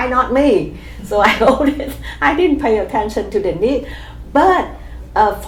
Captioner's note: laughs